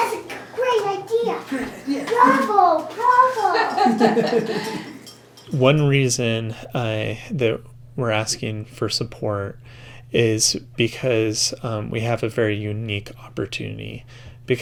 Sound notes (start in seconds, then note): 3.3 laughing